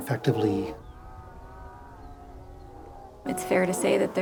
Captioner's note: cows mooing